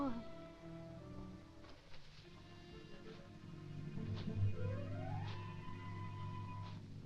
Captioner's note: grim suspenseful music; distant rustling